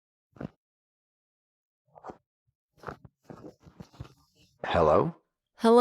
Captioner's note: none